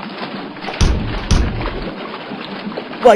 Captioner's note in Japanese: 叩く音：ﾄﾞﾝ！ﾄﾞﾝ！